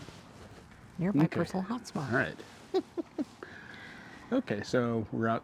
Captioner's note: laughing